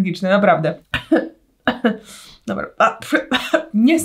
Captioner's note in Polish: kaszel